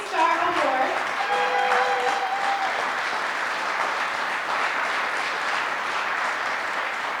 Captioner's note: audience cheering and applause